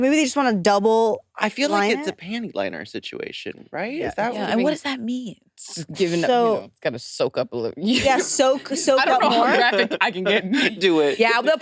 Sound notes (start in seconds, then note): 9.9 participants chattering